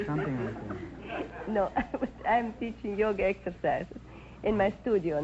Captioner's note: chuckles